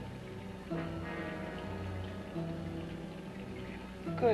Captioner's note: liquids bubbling; ominous music